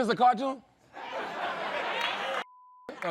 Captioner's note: laughter